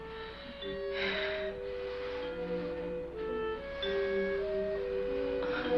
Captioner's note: heavy breathing